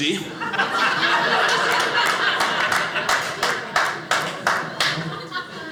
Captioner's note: audience laughing